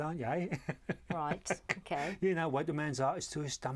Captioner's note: laughter